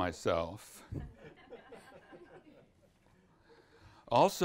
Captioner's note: audience laughs